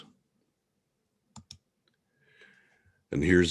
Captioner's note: mouse clicking